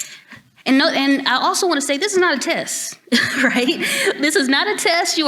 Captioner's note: chuckles